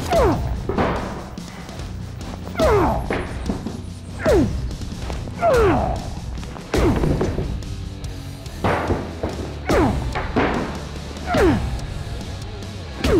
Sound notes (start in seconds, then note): 1.3 grunting